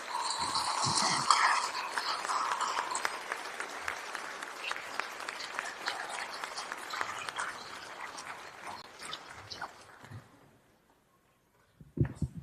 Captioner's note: applause